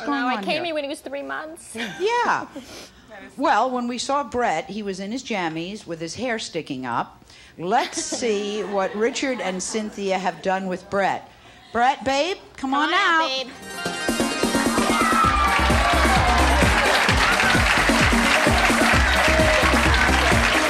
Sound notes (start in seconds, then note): 13.6 engaging music; 15.5 audience yells and cheers